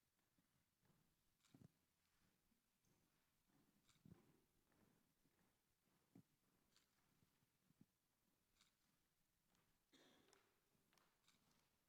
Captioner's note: applause